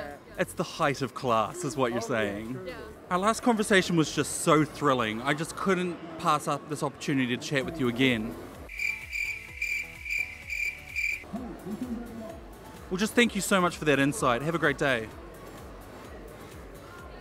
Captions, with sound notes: It's the height of class is what you're saying. Our last conversation was just so thrilling I couldn't pass up this opportunity to what with you again. *crickets* Well, just thank you so much for that insight. Have a great day!